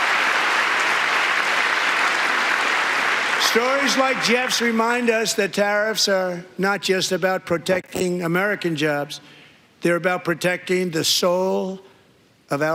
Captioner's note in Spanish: aplausos